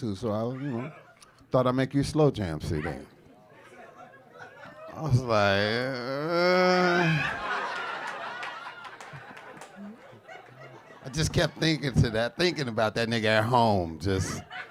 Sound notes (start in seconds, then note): 5.5 groans; 7.6 audience laughing